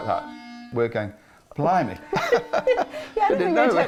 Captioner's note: both laugh